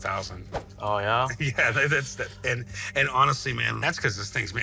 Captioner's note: chuckles